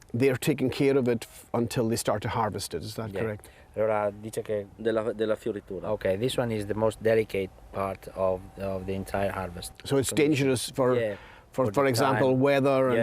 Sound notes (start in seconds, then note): 3.8 speaking Italian